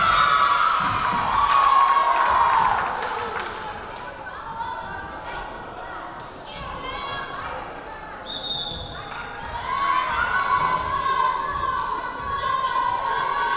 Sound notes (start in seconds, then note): 0.0 cheering; 0.1 clapping; 4.6 yelling; 8.2 whistle blowing; 11.2 yelling